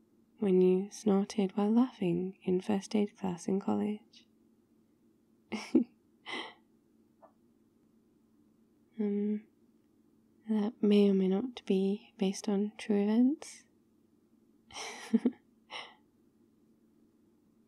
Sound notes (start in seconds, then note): 5.6 laughs; 14.8 laughs